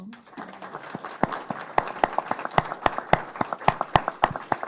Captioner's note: applause